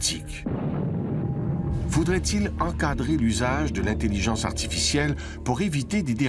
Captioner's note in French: explosion